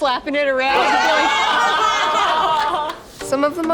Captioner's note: laughing